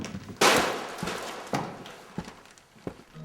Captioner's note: plastic rustles